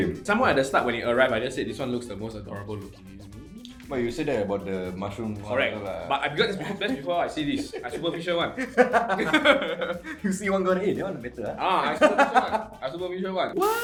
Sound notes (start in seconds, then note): 9.3 laughter